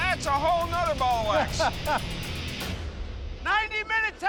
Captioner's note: laughs